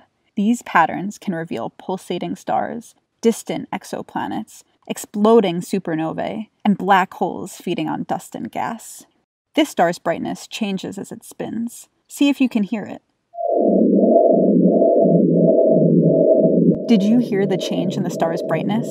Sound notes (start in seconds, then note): 13.3 sonification playing